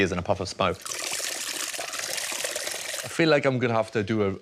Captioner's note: liquid spurts